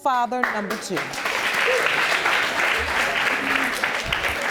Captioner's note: audience applauding